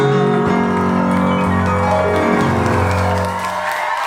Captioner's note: crowd cheering